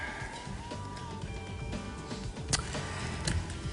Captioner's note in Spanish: exhala